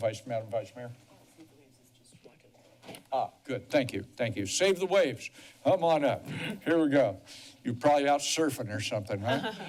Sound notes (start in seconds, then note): 1.7 whispering